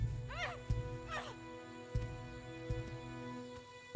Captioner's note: Fox grunts